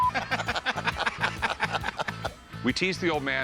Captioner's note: laughter